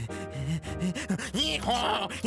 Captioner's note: panting